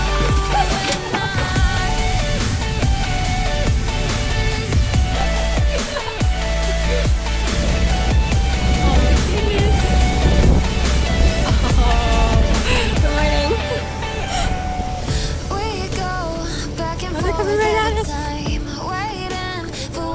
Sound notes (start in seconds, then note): 0.1 upbeat music; 5.1 laughter; 19.9 upbeat music